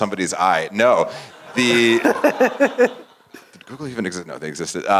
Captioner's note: laugh